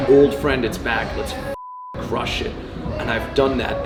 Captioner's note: beep